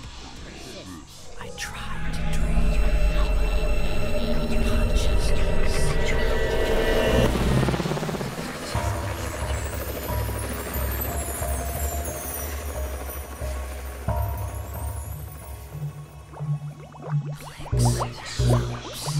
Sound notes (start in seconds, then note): 6.5 helicopter sounds; 16.9 bubbles